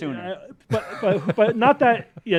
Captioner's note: laughs